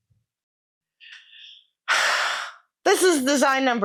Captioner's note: sigh